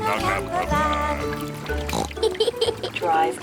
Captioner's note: oinks and giggles